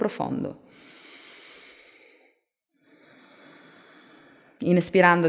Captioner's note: inhale-exhale